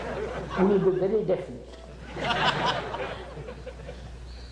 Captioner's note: laughter